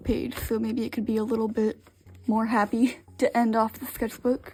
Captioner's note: laughs